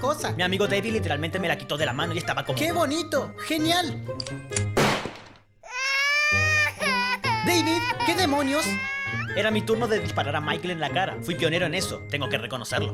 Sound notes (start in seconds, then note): 5.7 weeping